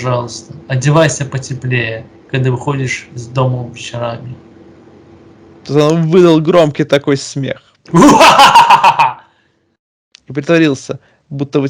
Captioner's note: laugh